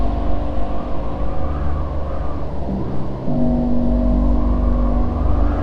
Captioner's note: wind blowing